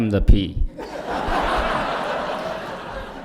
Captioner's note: laughter